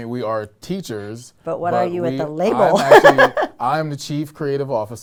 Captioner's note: laughs